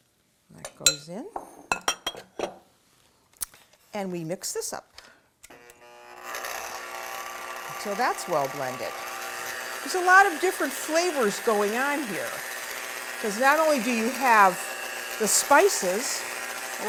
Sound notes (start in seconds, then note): 9.1 whirring